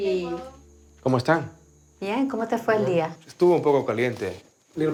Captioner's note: speaking Spanish